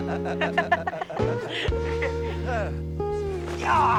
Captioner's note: laughs